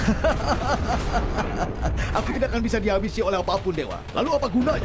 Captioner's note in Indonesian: tertawa